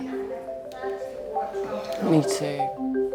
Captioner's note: people chattering